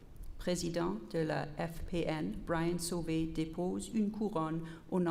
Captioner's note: repeated in French